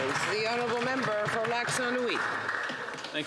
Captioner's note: applause